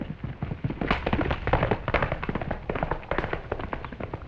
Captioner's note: hooves clattering